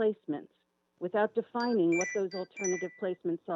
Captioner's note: chime